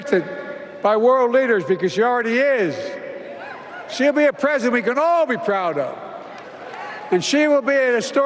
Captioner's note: applause